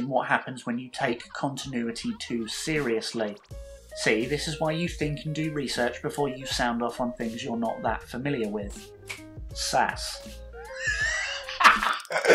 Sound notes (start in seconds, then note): 9.0 clicks fingers